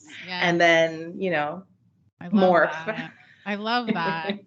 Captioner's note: giggles; giggles